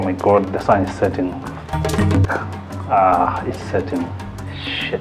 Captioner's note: laughs